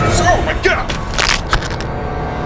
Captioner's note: Crunch